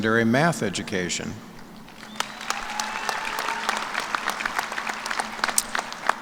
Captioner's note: cheers and applause